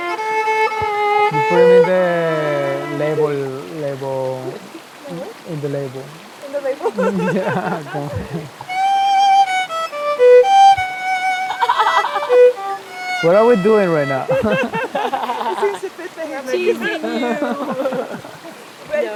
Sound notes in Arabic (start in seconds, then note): 7.7 يضحك; 11.3 يضحك; 14.9 يضحك